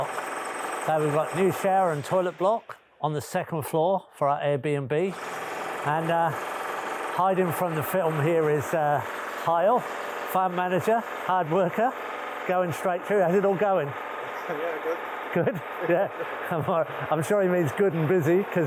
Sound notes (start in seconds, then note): 5.2 drill whirring; 15.3 chuckles